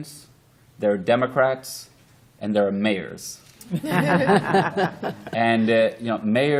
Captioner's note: laughter